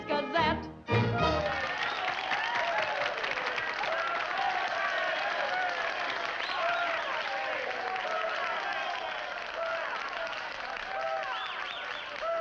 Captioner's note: men cheer and clap